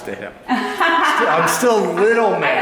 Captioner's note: laughs